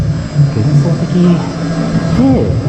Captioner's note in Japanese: 棒読み